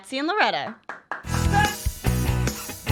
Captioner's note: applauds; upbeat music